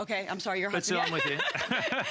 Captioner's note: laughter